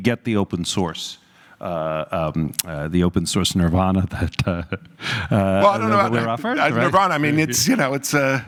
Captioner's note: laugh